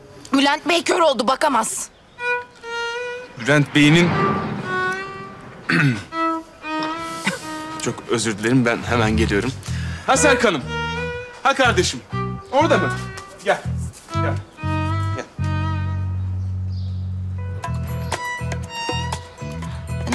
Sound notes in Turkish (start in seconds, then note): 5.6 Öksürme sesi